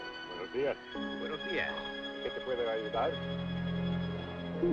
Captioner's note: speaking in Spanish